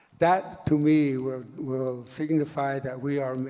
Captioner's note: none